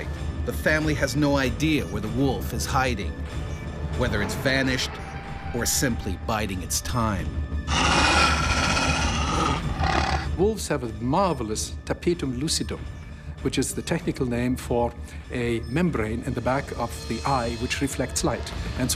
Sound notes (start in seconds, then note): 0.0 voiceover; 7.6 growls